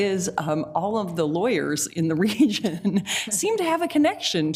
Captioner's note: laughs